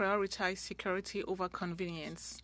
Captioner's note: speaking French